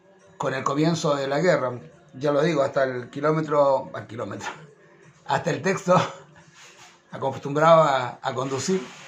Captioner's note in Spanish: risas